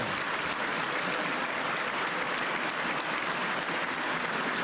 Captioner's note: cheers and applause